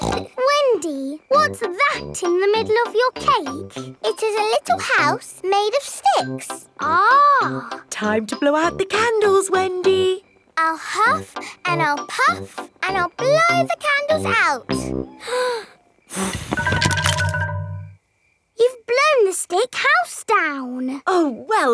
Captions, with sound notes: (SNORTS) Wendy, what's that in the middle of your cake? It is a little house made of sticks. Ah. Time to blow out the candles, Wendy! I'll huff and I'll puff and I'll blow the candles out! (BLOWING) You've blown the stick house down!